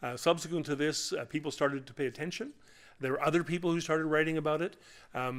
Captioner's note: none